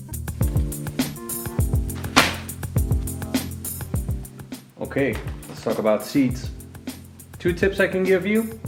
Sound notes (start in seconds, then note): 2.0 slap